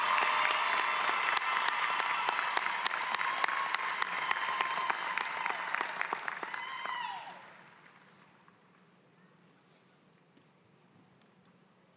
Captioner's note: cheering and applause